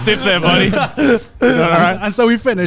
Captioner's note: laughing